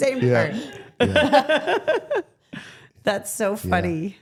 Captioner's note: Stephanie laughing